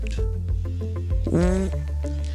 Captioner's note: squeaking